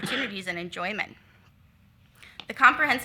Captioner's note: attendee coughs